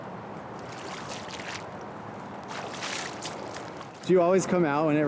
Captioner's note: water spalashes